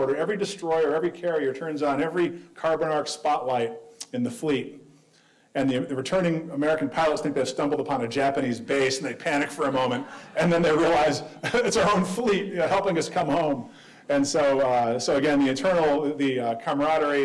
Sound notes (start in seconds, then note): 9.3 audience laughing